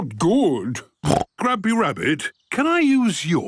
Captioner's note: snorts